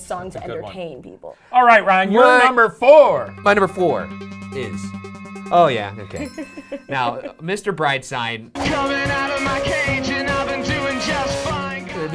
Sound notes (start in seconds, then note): 3.1 suspenseful music; 6.2 chimes dinging